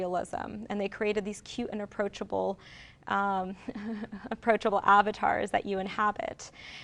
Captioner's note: chuckles